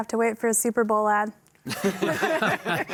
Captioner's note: all laughing